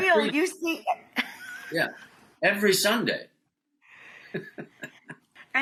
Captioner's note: laughs